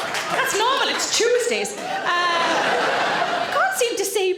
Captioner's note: audience laughing